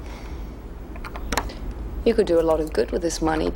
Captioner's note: safe clicks